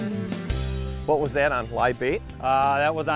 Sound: voiceover

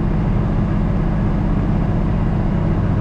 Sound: engine humming

